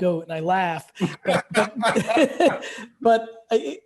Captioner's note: both laughing